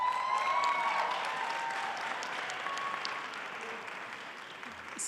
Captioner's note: applause